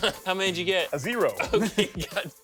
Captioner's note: laughs